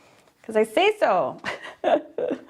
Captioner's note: chuckles